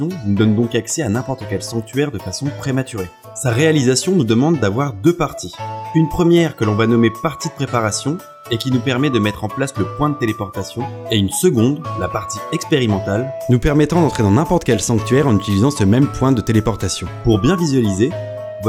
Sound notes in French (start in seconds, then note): none